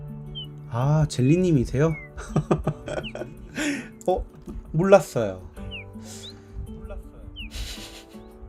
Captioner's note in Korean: 웃음